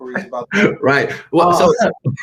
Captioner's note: laughs